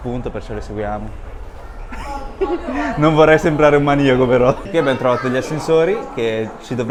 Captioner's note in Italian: risate